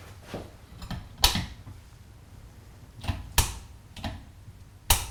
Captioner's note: light switch clicks